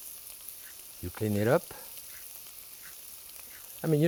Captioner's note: peeler scraping; peeler scraping